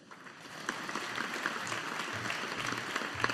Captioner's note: audience applauding